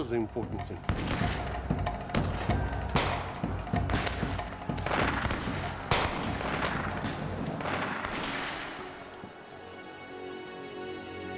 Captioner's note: gunfire and explosions